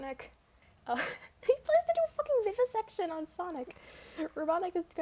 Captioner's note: laughs